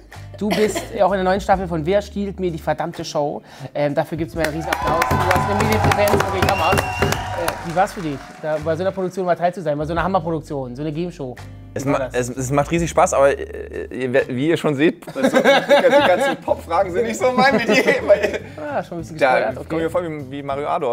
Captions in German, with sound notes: Du bist auch in der neuen Staffel von "Wer stiehlt mir die verdammte Show?" Dafür gibt's mal einen riesen Applaus. (Jubel, Applaus, Unverständlich) Wie war's für dich, bei so einer Produktion dabei zu sein? Bei so einer Gameshow? Es macht riesig Spaß, aber wie ihr schon seht ... (Lachen) Die ganzen Popfragen sind nicht so mein Metier. Da komme ich mir vor wie Mario Ado,